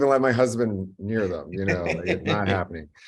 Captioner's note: laughs